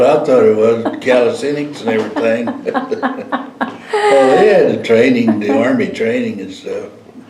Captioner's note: laughter